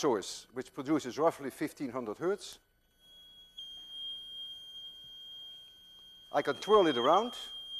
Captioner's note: machine emits high-pitched tone